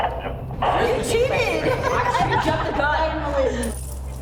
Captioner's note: inmate chatter and laughing